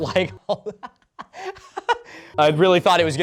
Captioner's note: laughing